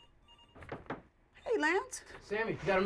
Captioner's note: phone ringing; knocking